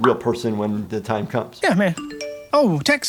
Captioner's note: text tone